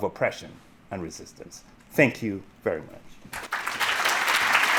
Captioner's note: audience clapping